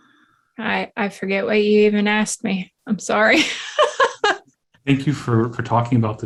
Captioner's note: laughs